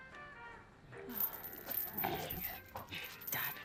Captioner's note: chain rattling